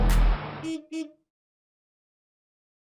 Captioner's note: horn honking